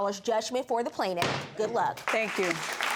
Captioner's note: bangs gavel